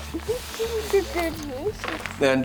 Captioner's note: giggling